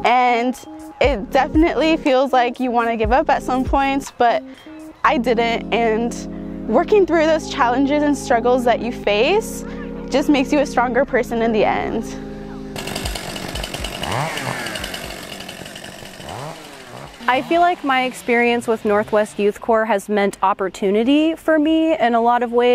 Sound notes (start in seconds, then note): 12.7 chainsaw revving